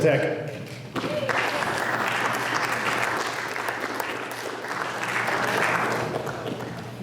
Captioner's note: applause